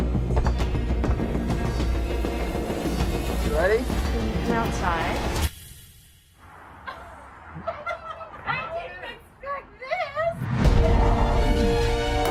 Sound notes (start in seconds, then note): 7.5 laughter